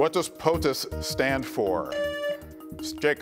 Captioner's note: buzzer beeps